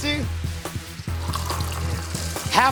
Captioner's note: sloshing